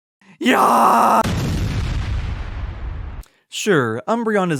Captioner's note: explosion